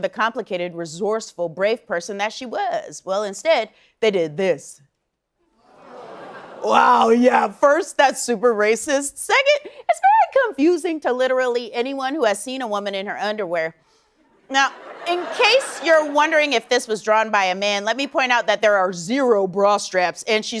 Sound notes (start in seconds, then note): 6.6 audience groans